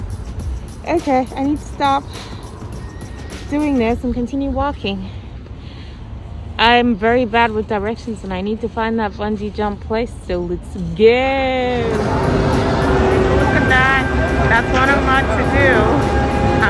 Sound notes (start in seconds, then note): 2.2 huffs; 12.7 loud crane sound